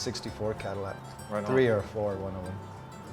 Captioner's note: murmurs